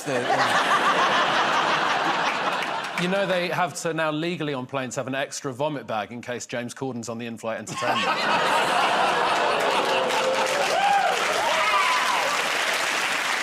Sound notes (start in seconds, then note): 7.8 audience ooh's; 10.3 laughter and applause